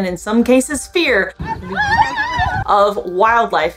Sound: people in clip screaming

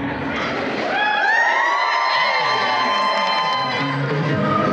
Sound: audience cheering

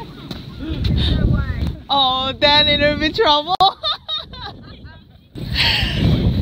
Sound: laugh; laugh

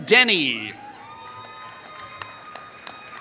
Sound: applause

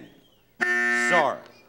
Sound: buzzer sounds

